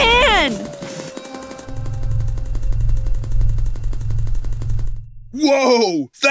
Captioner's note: running sounds increase in speed, as the earth spins in place